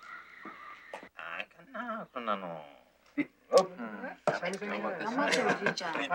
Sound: speaking in foreign language

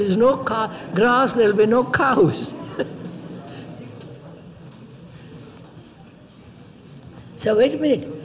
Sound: laughs

